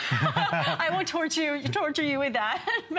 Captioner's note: laughter